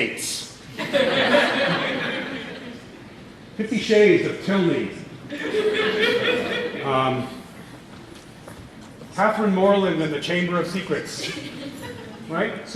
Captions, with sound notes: [LAUGHTER] Fifty Shades of Tilney. [LAUGHTER] Catherine Morland and the Chamber of Secrets.